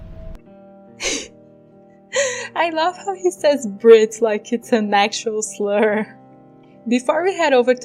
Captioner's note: laugh